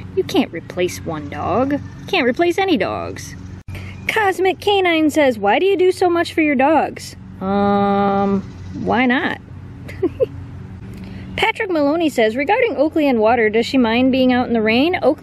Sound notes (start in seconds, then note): 9.8 laughter